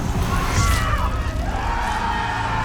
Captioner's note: crowd shouts; crowd cheers